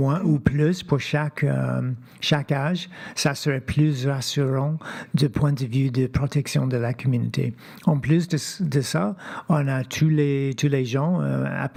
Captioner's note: speaking French